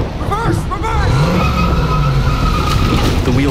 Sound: car revving

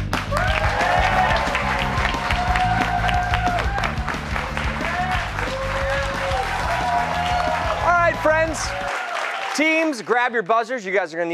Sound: cheers and applause

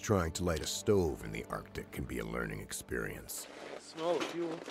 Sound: voiceover

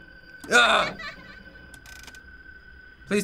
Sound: in game: child giggles

